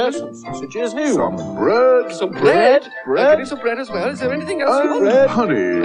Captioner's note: frantic Chatter Continues; chatter Fades